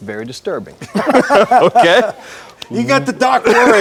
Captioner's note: laughs